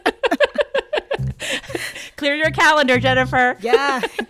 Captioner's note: laughter